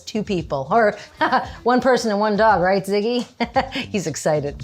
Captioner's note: laughs